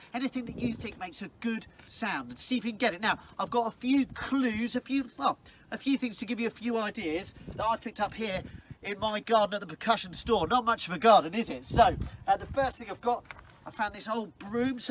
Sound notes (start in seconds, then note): none